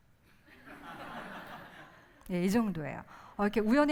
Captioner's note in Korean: 웃음